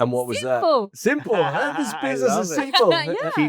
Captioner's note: laughs